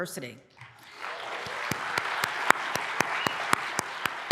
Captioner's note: applause